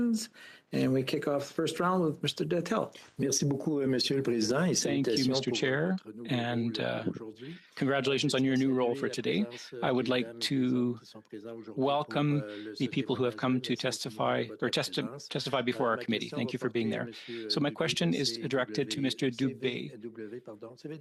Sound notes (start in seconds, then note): 9.9 speaking French